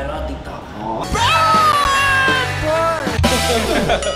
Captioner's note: off-note Kvlt screaming; laughs